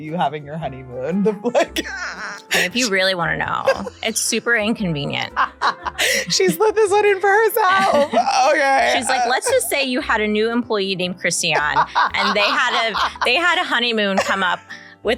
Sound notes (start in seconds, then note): 1.5 laughs; 5.3 laughing; 11.5 laughing